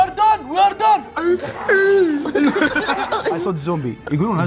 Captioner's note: grrrhs 🧟; both laugh